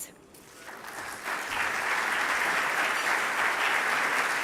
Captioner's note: applause